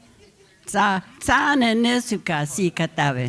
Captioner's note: speaking Comanche